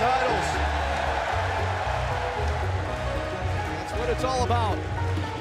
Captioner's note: crowd cheering